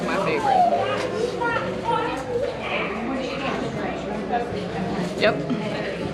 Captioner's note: customers chattering